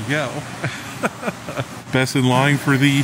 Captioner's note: laughing